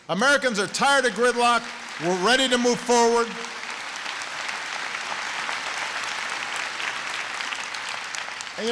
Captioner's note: applause